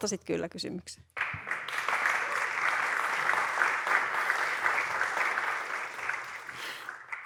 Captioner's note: applause and cheering